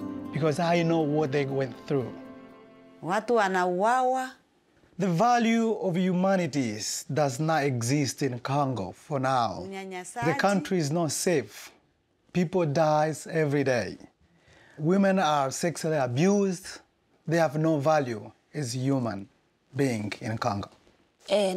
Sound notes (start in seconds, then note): 2.9 speaking in foreign language; 8.9 speaking in foreign language; 21.3 speaking in foreign language